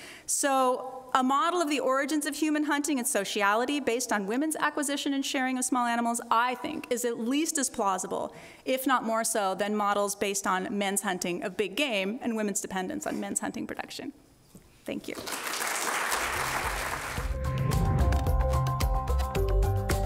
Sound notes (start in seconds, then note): 15.2 audience applauds; 16.3 upbeat music